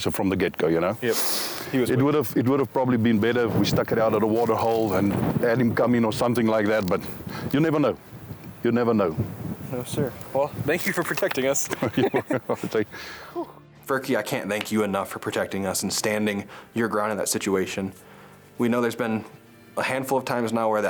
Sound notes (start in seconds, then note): 11.6 laughing